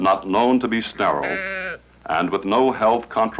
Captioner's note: goat bleating